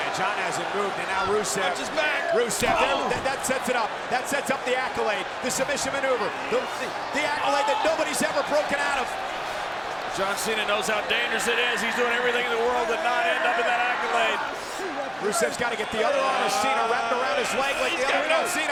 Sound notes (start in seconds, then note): 2.4 blow thudding